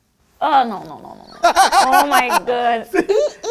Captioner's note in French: rire